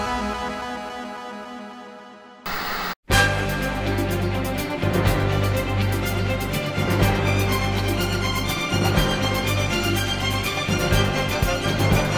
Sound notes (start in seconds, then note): 2.4 static